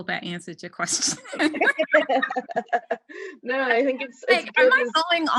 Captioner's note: laughter